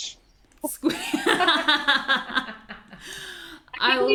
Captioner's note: all laugh